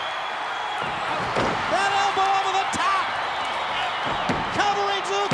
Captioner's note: crowd cheering; ground slamming